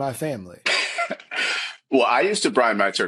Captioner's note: laughing